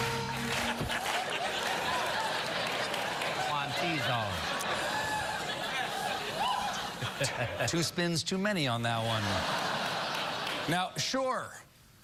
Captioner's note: band playing; clapping in time to music; cheering; laughter